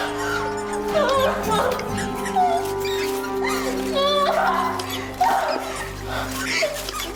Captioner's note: sobbing